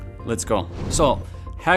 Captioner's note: air whooshing